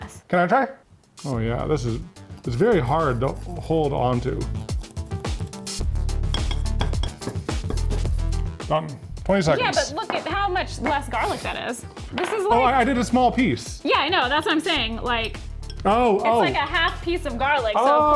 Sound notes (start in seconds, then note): 4.1 light music continues; 6.3 plate clinking